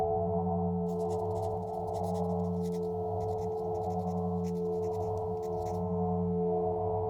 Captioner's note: pen on paper writing sound